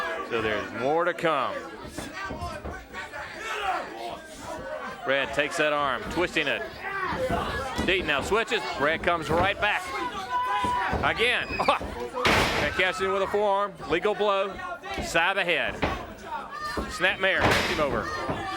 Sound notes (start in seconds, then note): 12.2 blows thudding; 15.6 body thudding